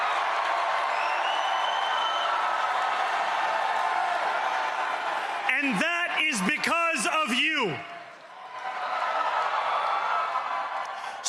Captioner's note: cheering and applause